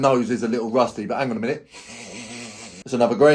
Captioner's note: sniffs